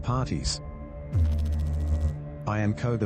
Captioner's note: electrical noise